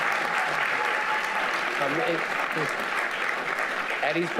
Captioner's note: audience applauding